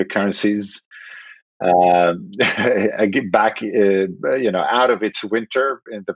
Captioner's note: laughing